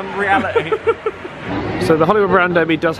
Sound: laughs

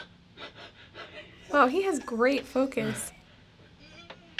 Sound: chuckling

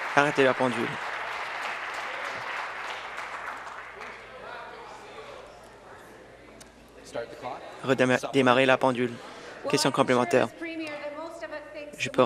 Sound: some Applause

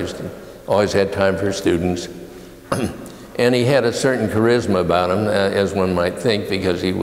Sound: cough

